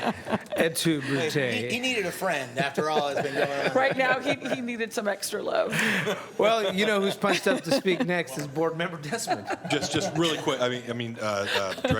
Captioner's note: laughter